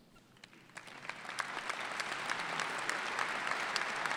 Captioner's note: applause